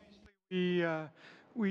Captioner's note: speaking in French